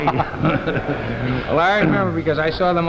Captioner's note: laughing